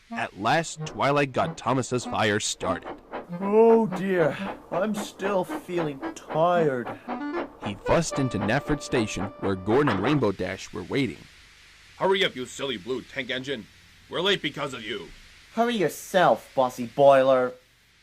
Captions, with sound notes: At last, Twilight got Thomas' fire started. (yawning) oh dear, I'm still feeling tired. He fussed into Knapford station where Gordon & Rainbow Dash were waiting. Hurry up you silly blue tank engine! We're late because of you! Hurry yourself bossy boiler!